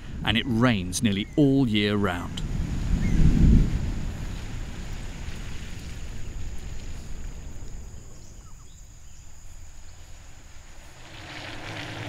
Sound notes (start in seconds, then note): 3.2 rain drumming; 9.1 birds chirping